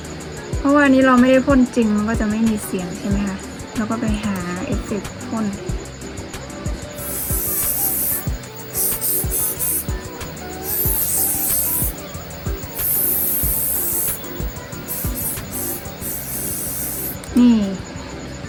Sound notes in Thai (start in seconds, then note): 6.8 เสียงพ่นสเปรย์